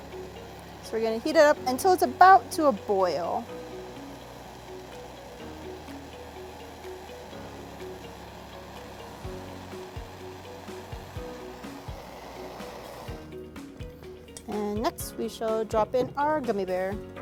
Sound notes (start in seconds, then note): 3.1 torch burns